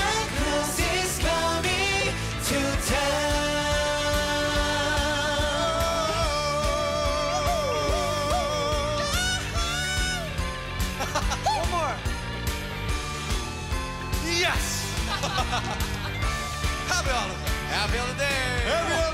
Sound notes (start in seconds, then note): 10.9 laughs; 15.0 laughter